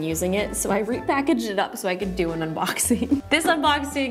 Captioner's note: giggles